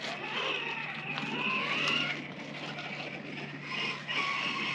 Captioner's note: vroom!